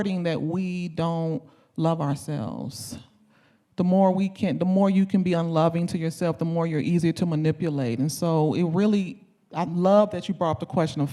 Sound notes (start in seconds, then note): none